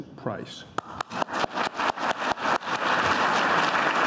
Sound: clapping

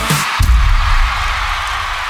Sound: crowd cheering

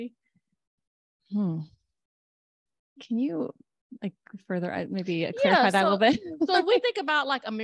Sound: laughter

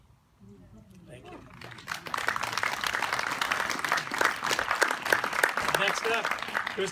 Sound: applause

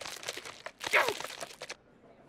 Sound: straining

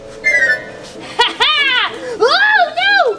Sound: laughing

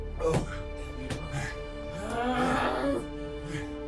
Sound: pained cries

